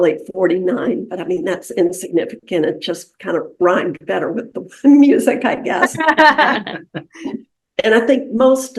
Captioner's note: laughter